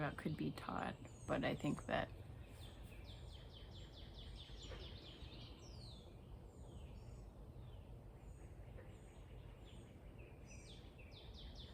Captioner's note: birds chirping